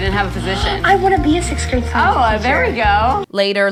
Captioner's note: gasps